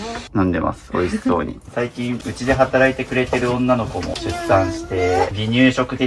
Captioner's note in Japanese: 鼻息